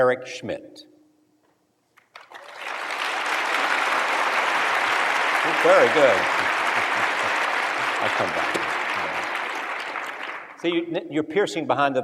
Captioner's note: applause